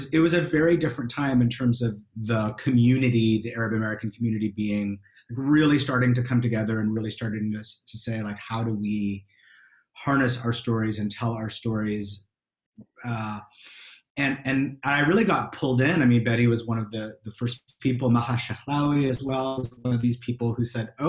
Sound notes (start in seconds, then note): 18.3 speaking foreign language